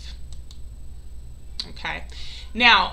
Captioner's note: mouse clicks